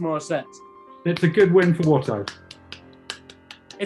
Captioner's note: applauding